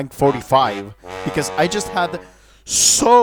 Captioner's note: inhales